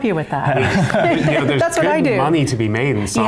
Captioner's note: laughing